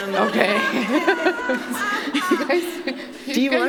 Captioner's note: laughter